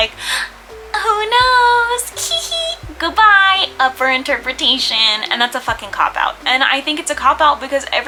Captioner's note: gasp